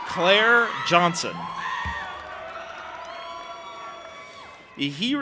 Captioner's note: audience applauding and cheering